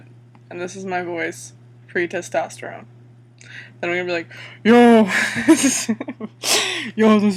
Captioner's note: laughs